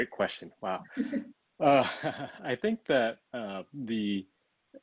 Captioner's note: laugh